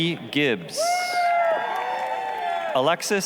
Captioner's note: applause, cheering